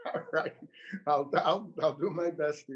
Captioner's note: chuckles